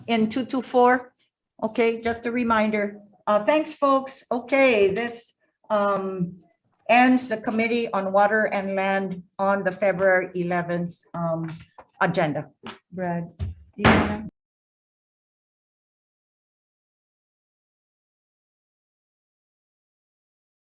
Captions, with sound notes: - In 224, okay. Just a reminder. Thanks folks, okay. This ends the Committee on Water and Land on the February 11th agenda. - Gavel. (gavel banging)